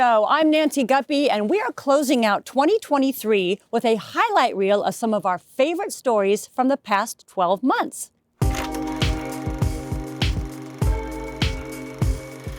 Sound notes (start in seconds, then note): 8.4 projector reel clicks